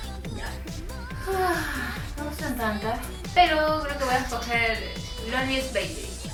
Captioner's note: sigh